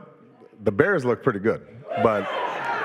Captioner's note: audience cheering